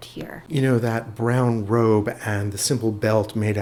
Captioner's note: voiceover